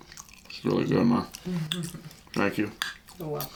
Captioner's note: chuckles